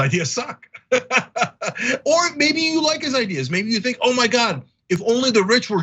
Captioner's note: laugh